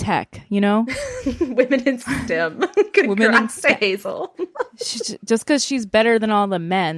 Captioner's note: laughs